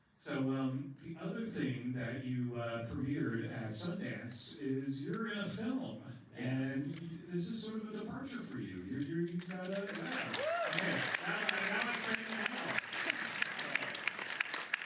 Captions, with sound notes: So, the other thing that you premiered at Sundance is, you're in a film, and this is sort of a departure for you. You're, you've got a, yeah! [Applause] Now I've trained them well.